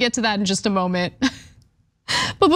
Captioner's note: laugh